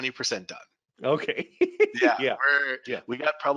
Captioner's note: laughing